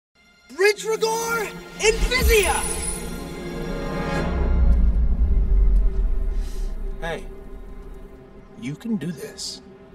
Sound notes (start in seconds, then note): 1.9 magic wands twinkles; 5.6 suspenseful music